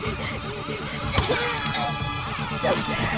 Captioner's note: screams, dark music; dark and tense music; Cries of Aunspach